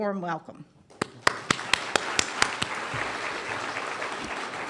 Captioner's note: applause